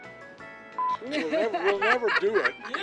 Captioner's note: laughing